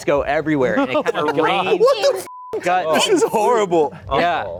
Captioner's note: beep